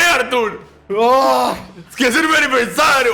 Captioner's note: groans